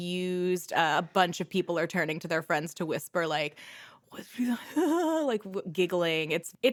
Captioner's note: imitates gossiping